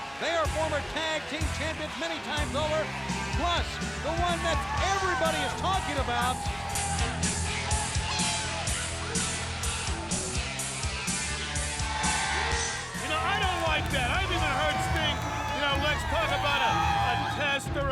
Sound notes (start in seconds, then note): 6.4 upbeat music; 12.1 crowd cheering